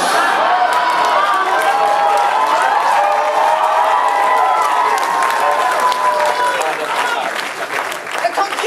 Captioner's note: uproarious laughter and applause from audience